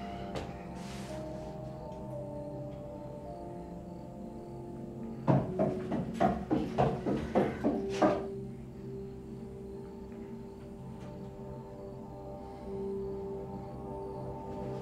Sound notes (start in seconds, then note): 0.0 tense music; 0.1 crickets chirping; 5.7 footsteps approaching; 8.2 tense music; 8.5 crickets chirping